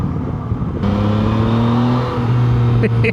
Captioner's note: engine revs; laughs